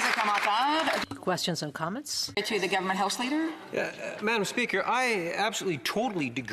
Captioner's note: some Applause